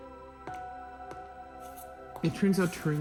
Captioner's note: footsteps padding